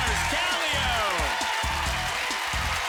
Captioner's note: cheering